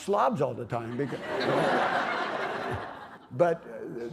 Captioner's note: laughter